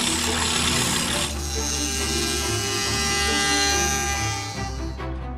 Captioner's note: machinery whirring